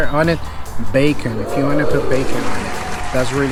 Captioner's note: crowd cheering